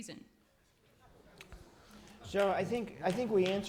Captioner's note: laughter